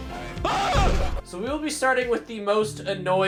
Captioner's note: screams